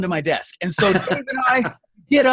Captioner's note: laughing